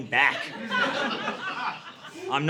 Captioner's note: audience laughing